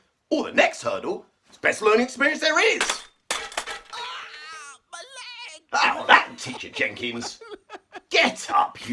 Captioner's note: smash sound and scream of my leg my leg